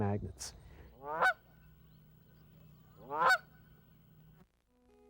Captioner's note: ducks quacking